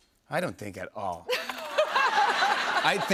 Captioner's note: laughter